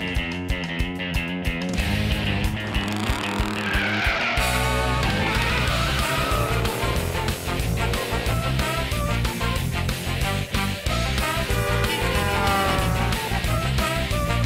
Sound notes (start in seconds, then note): 10.5 honking